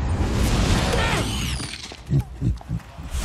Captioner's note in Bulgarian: grunтs; снuсklеs